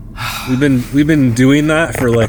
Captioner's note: sighs